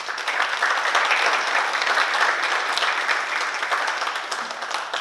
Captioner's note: oklaski